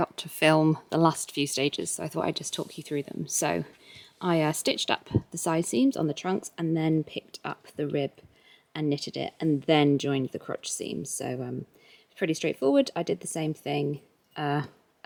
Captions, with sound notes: to film the last few stage so I thought I would just talk you through them. So, I stitched up [mic buzz] the side seams on the trunks and then picked up the rib and knitted it and THEN joined the crotch seam. So erm, pretty straight forward, I did the same thing er